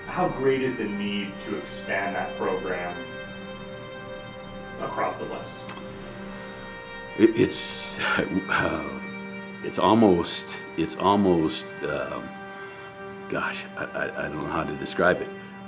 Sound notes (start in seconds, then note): 8.4 chuckles